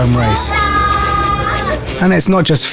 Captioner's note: fans cheering